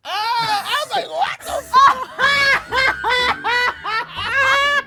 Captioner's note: laughing